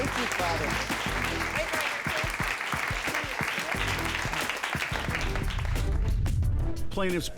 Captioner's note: applause